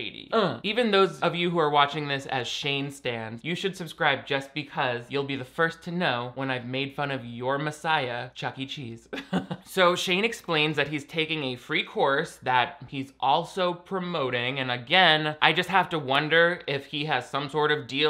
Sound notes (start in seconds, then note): 0.2 grunts; 9.2 laughs